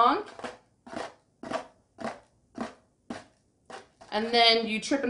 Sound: crumple

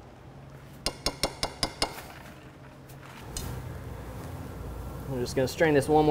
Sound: spoon hitting edge of dish

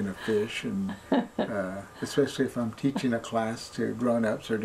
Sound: laughs

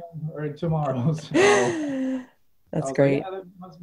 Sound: chuckles

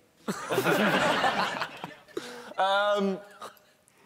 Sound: laughing

